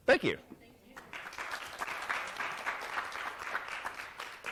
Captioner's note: applause